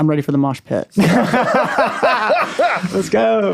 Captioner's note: laughing